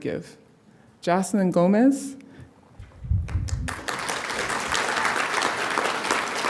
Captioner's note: audience applauding